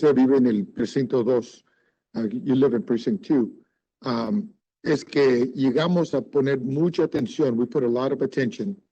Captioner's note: speaking Spanish